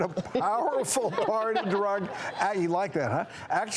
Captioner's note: laughing